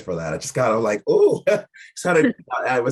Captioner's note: chuckling